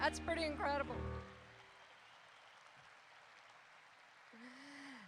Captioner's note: applause erupts